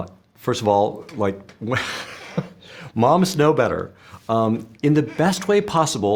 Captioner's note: laughs